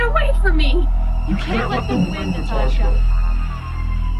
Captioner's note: voice distorted